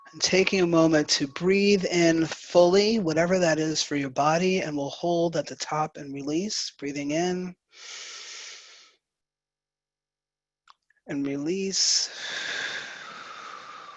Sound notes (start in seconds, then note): 0.0 bell ringing; 7.7 breathes